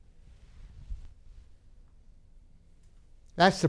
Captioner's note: none